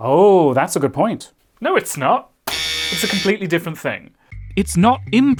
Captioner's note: buzzer